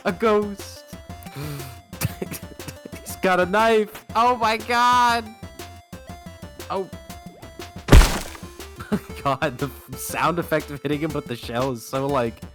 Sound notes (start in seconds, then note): 2.0 dying of laughter; 5.4 loud crunch of a shell hitting the boss